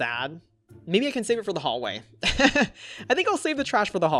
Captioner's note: laughs